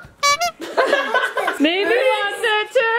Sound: horn honks

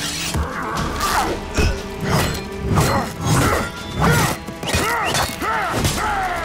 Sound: grunting

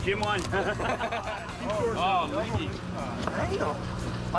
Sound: indistinct chatter

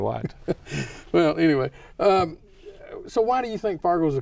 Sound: laughing

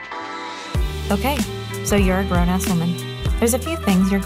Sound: jazz music; voiceover

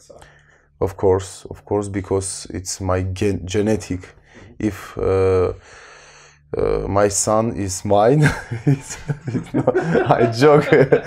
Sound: laughter

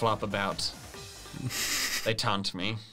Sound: chuckling

